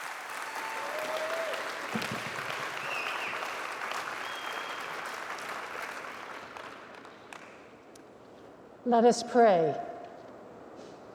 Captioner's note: cheers and applause